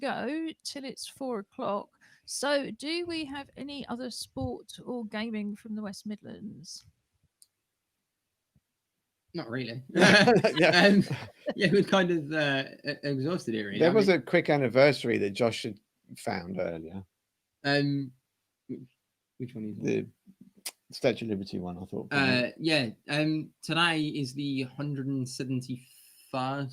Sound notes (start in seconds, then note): 9.9 laughter